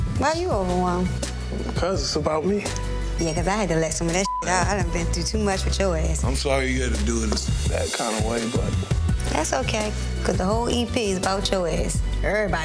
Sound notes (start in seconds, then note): 4.2 beep